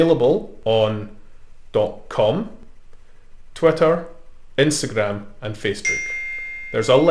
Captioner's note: ding